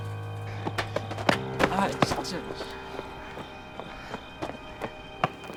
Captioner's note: speaking in Korean